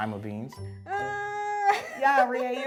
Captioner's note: laughs